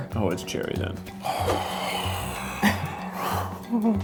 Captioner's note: groans